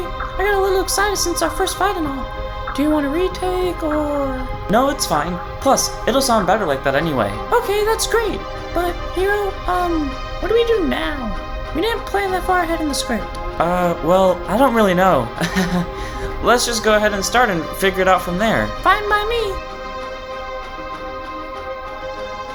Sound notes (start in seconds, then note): 15.4 laughs